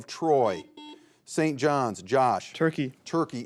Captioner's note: buzzer beeps